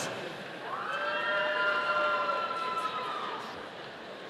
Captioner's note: audience cheering